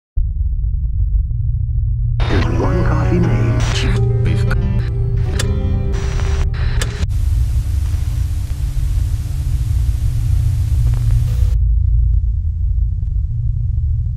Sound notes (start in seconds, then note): 0.2 static hum; 2.3 dissonant music; 5.2 projector clicking; 6.9 static hissing; 11.4 static hums